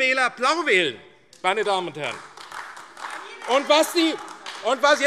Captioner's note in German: Beifall AfD - Anhaltende Zurufe